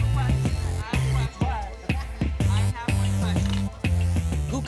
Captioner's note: indistinct chatter